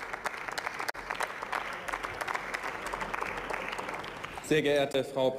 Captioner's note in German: Beifall